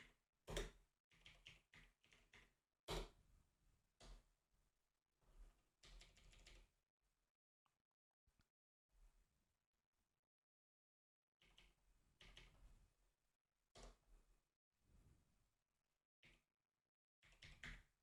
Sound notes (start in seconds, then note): 3.8 typing